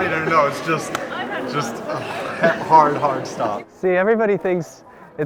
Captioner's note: claps